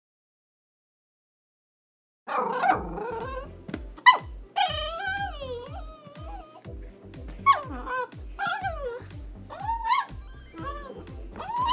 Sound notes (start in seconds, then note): 2.3 Tilly growls; 4.5 Tilly cries; 7.1 Tilly growls and cries